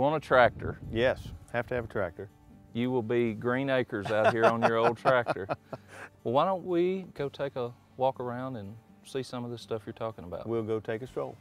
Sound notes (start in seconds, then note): 4.0 laughing